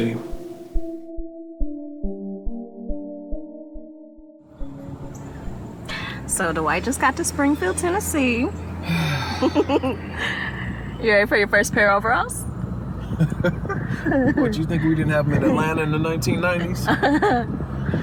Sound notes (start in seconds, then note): 0.0 soft music; 8.8 Dwight sighs; 9.3 Emily giggles; 13.0 Dwight laughs; 13.2 Emily giggles; 16.8 Emily laughs